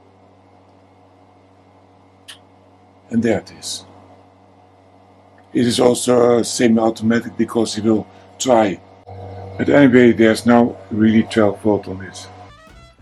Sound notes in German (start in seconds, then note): 7.9 Klick, Klick, Klick